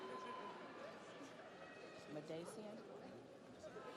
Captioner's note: audience cheers